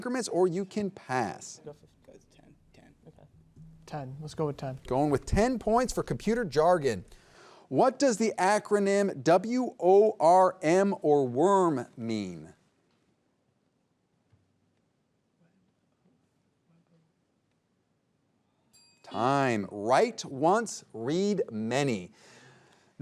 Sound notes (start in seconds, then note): 18.7 bell ringing